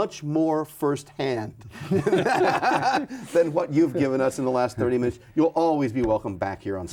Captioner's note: both laughing